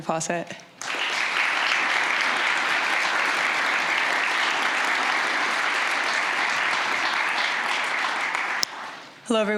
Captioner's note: applause